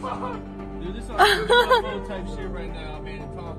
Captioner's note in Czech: ženský smích